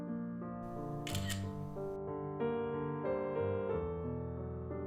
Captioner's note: camera clicks